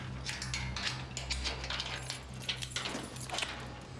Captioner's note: keys rattle